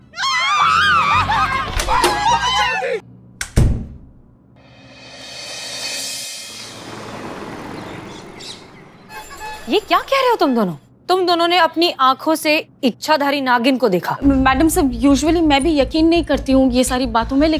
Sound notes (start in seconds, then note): 0.1 everybody screaming; 3.5 door slams; 6.3 car tyres humming